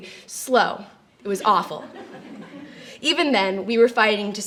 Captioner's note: light laughter